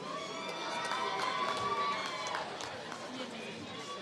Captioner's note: applause